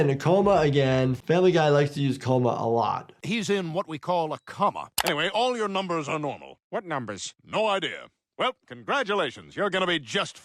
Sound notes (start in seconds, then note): none